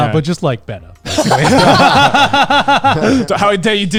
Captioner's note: all laugh